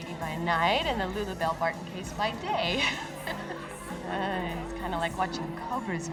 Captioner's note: laughs